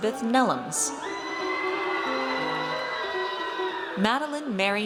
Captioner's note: audience cheers